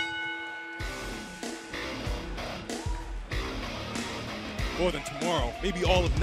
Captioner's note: bell ringing